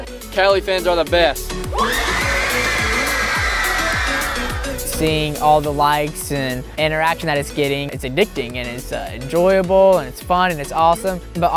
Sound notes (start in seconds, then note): 1.7 cheering